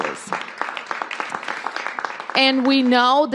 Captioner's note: applause